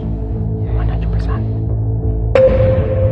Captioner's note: quietly